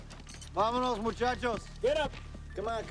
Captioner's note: Henderson speaks in Spanish